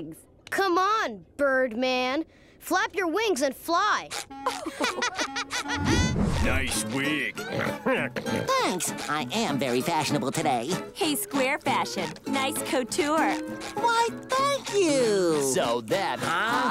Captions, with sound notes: Come on, Birdman. Flap your wings and fly. [laughing] Nice wig. [laughing] Thanks. I am very fashionable today. Hey, SquareFashion, nice couture. Why, thank you. - Sold then- - Huh?